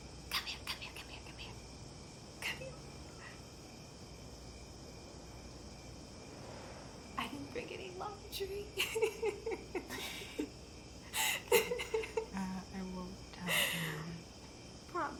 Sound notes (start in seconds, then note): 8.6 laughs